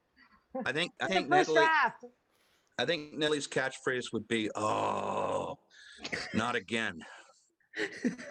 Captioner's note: groan